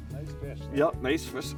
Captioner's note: voiceover